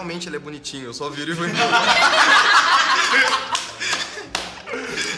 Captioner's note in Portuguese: Risadas